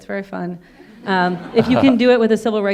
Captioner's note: audience laughing